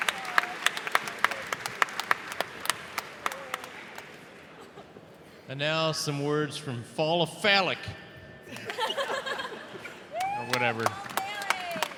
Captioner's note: applause